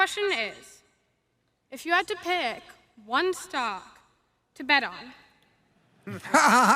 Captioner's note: laughter